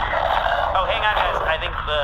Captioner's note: screeching